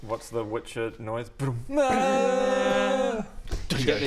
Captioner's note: bdmm AAAAAAAAAAAAAAAH